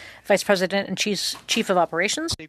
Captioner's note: speaking French